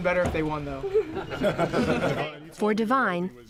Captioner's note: laughter